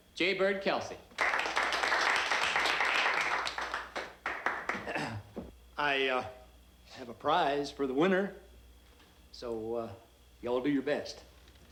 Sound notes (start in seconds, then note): 1.1 crowd applauding; 4.7 Jay Bird clearing throat